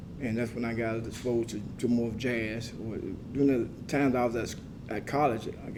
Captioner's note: none